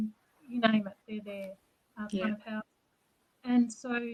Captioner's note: speaks faintly